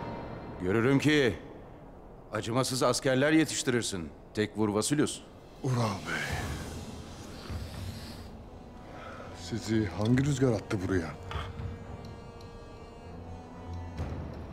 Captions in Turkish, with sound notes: Görürüm ki acımasız askerler yetiştirirsin Tekfur Vasilius. Ural Bey. (Nefes sesi) Sizi hangi rüzgâr attı buraya?